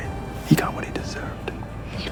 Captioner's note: whispering